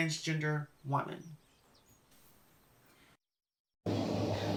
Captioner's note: silence